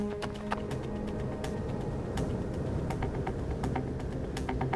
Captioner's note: wind blowing